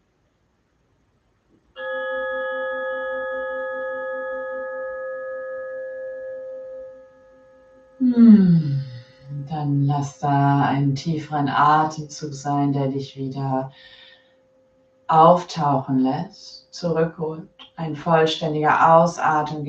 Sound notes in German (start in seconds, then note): 2.2 Gong ertönt